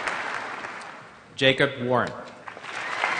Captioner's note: applause; applause